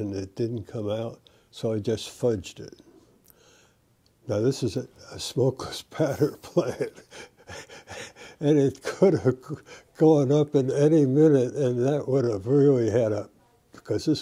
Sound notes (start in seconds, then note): 6.3 laughter